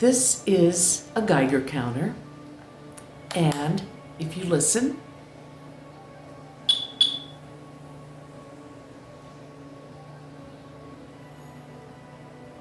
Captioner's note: chirping intermittently